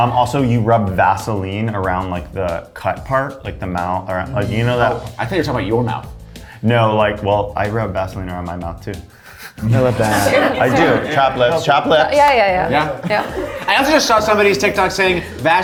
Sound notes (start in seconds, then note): 9.4 all laughing